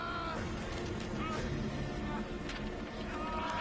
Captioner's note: screaming continues